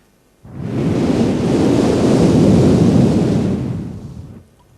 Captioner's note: Shri Mataji blows through the microphone